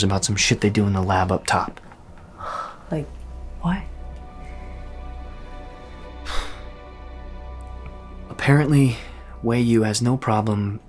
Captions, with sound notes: some shit they do in the lab up top. Like... what? [Colin sighs] Apparently, WeyU has no problem...